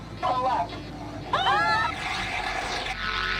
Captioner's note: screams